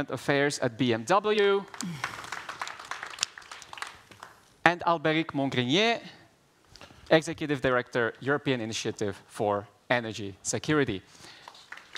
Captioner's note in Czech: Potlesk